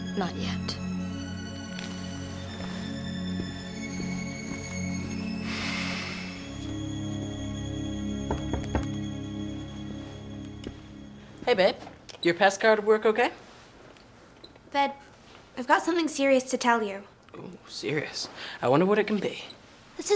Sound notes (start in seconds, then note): 8.2 knocking